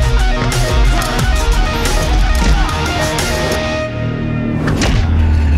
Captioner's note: men grunting; thudding